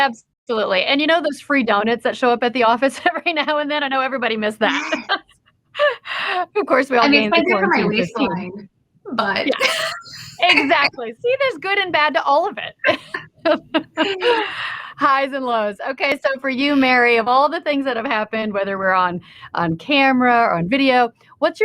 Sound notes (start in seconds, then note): 12.8 laugh